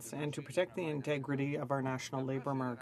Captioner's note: speaking french